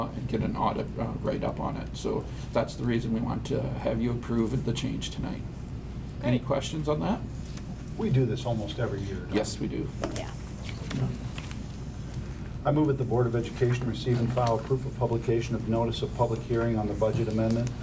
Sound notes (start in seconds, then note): none